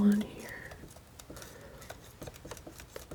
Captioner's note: scratching